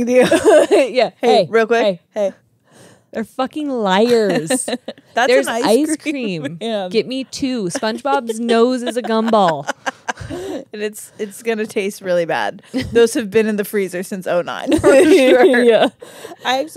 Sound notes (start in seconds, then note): 0.2 laugh; 4.0 laughs